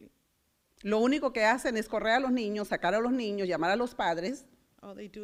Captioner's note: foreign language